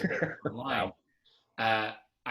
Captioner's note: laughs